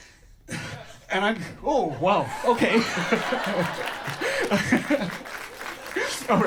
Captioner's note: audience laughter; laughs